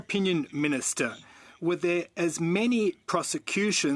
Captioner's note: speaking French